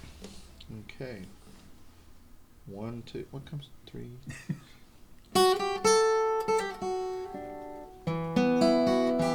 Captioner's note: laughter; guitar playing